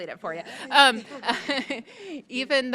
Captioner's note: both laughing